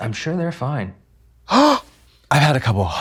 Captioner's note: Trixie gasps